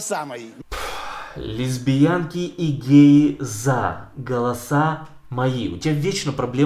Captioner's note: sighs